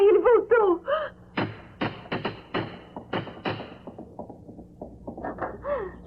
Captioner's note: knocks